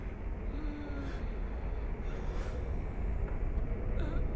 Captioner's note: faint wheezing